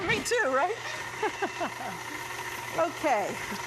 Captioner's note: laughing